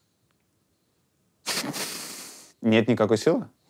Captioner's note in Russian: усмехается